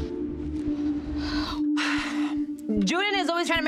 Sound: sighs

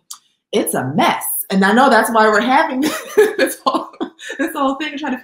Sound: laughs

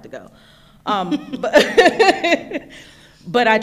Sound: laughing

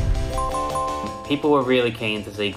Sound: ding ding ding

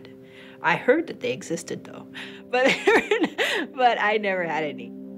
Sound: laughs

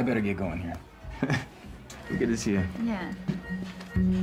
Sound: chuckling awkwardly

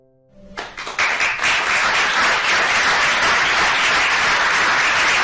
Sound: applause

